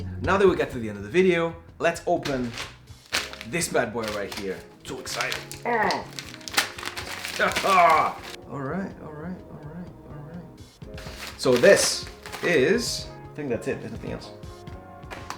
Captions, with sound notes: Now that we got to the end of the video, let's open this bad boy right here! So excited! (grunts) Alright, alright. So this is, I think that's it, nothing else.